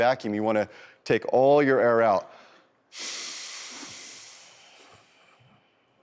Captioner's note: exhales slowly